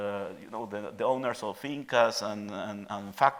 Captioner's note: speaking in Spanish